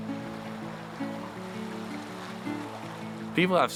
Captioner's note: babbling brook